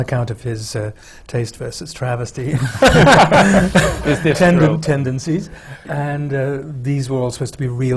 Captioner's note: laughter